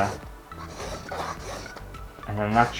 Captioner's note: pen Scraping On Canvas